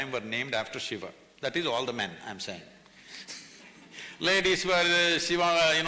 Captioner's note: laughs